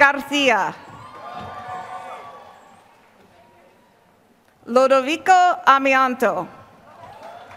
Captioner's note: applause